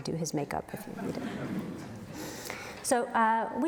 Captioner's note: audience laughs